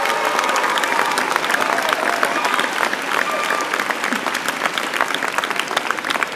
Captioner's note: applause